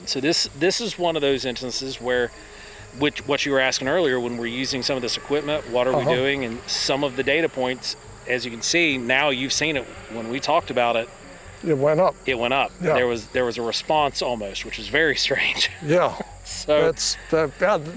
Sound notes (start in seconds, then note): 14.7 laughs